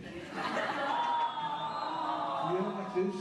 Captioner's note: ah!!! from the audience